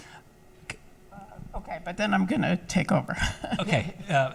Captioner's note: laughs